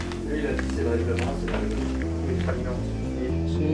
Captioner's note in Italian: chiacchierio dei lavoratori